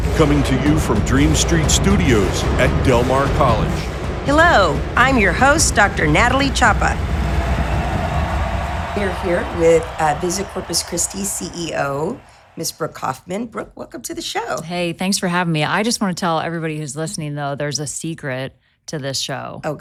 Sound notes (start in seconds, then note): 7.4 crowd cheering; 7.4 drums rolling